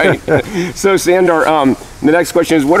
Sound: laughter

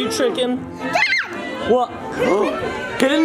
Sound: shouting

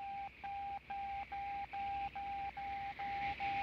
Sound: beeping Intensifies

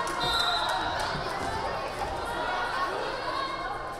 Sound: whistle blaring

